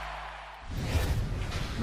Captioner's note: cheering